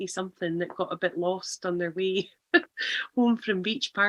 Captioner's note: laughs